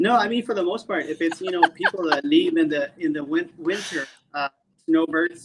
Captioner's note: laughing